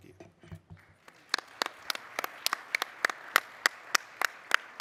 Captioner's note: audience applauding